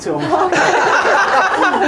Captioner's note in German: lachen